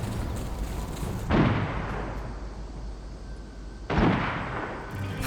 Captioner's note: gunshots